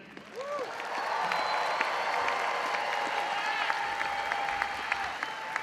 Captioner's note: audience cheering and applauding